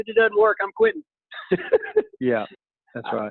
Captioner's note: laughing